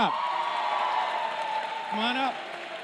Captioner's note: cheering